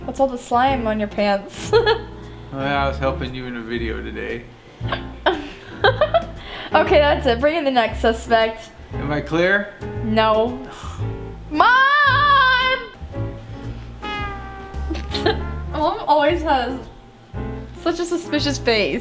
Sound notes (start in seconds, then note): 2.5 chuckles; 5.2 hiccups and laughs